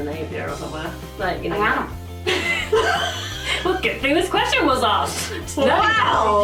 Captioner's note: laughing